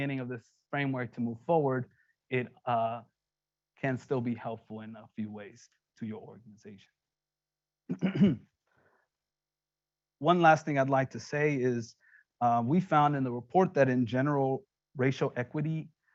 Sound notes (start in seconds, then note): 7.9 clearing throat